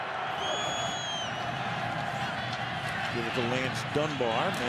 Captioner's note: crowd cheering